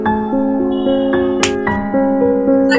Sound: slap

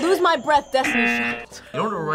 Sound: buzzer

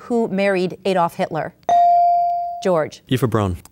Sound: ding

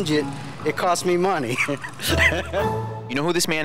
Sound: laughing

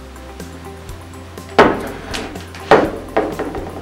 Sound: clang

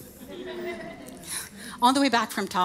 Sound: audience laughing

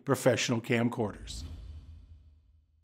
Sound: swoosh

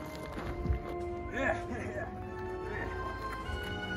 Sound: aggressive German noises

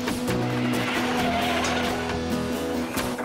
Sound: tires Screeching

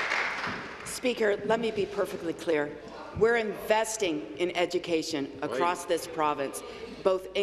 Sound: applause

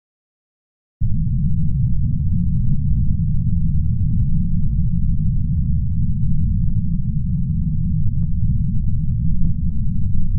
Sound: sound of cinematic dark room

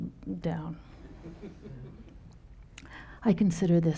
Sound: audience laughing

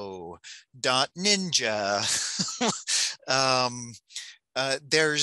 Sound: laughs

